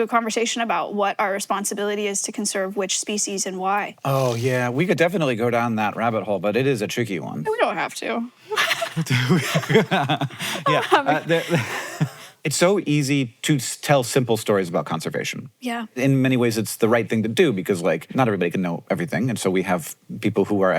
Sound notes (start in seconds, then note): 8.5 both laugh; 8.5 laughs